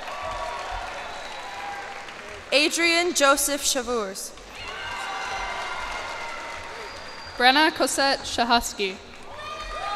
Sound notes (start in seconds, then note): 0.0 cheers and applause; 4.4 cheers and applause